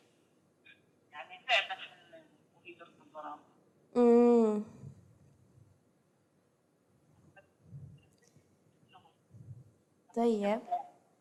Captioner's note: non-english speech